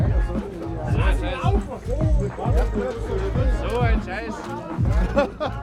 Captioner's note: untranslatable German speech